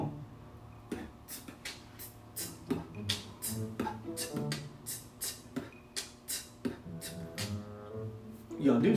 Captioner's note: beatboxing